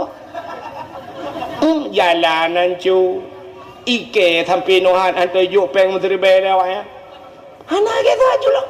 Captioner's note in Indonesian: tertawa